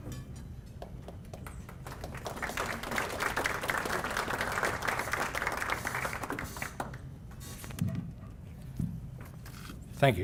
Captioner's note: applause